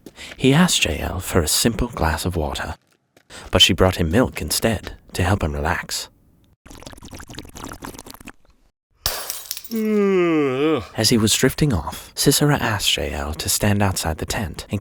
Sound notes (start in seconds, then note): 6.7 milk slurping; 9.0 glass shattering; 9.7 Sisera yawning